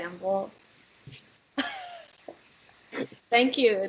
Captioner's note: laughter